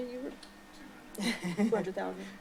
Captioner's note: chuckling